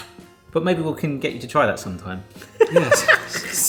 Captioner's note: laughs